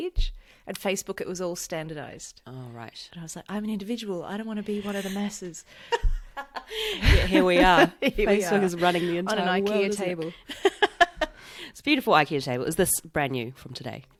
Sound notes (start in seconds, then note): 5.8 laughs